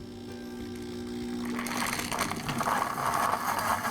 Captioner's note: machine whirring